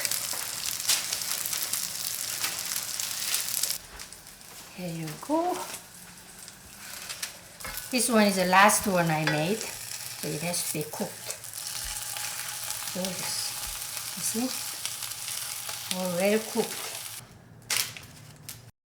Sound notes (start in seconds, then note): 0.7 pan sizzling